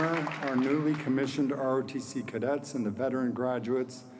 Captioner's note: applause